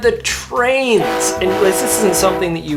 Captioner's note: train choo choos